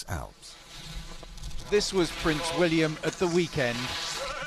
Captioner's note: voiceover